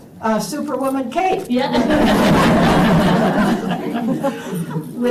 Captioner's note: laughter